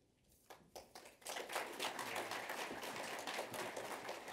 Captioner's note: applause